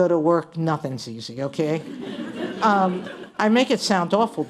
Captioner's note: laughter